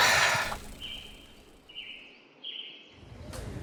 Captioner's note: bird chirping